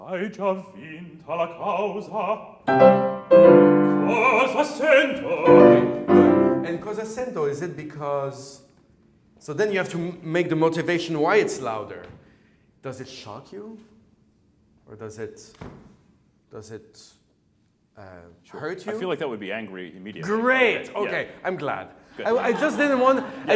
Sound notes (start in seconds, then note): 0.3 piano and singing in foreign language; 15.6 stomps foot; 22.1 laughter